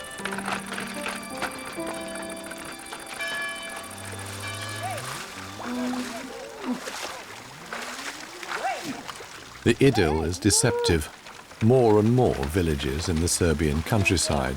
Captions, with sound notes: [church bell tolls] [cow moos] The idyll is deceptive. More and more villages in the Serbian countryside